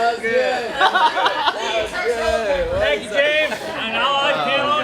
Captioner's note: laughing